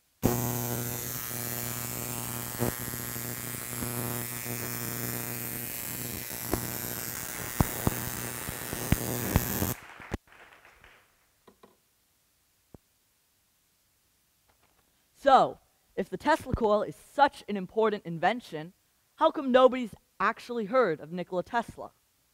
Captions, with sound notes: (Electricity buzzing) (Applause) So, if the Tesla coil is such an important invention, how come nobody's actually heard of Nikola Tesla?